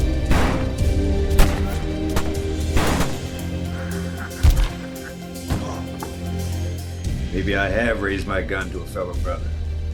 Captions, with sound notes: (outlaw laughing) (gun firing) - Uh! - Maybe I have raised my gun to a fellow brother.